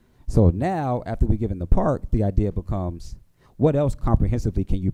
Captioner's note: none